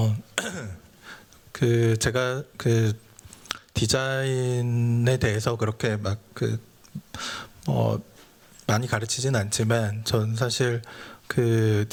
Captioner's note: speaking japanese